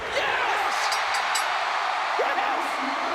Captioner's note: bell ringing